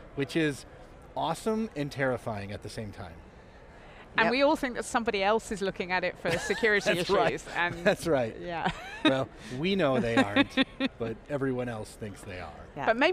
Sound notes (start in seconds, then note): 9.9 laughing